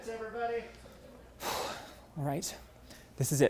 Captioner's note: Tristan exhales